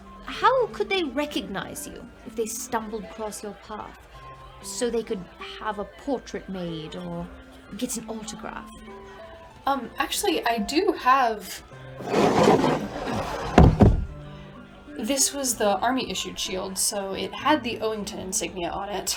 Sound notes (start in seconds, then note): 12.0 scraping, loud thud